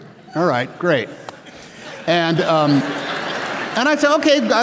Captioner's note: applause and Laughter